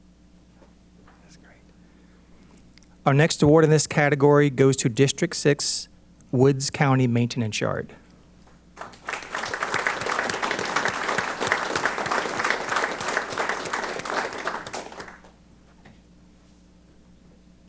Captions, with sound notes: That's great. Our next award in this category goes to District Six's Woods County Maintenance Yard. [APPLAUSE]